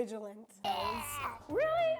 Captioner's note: groans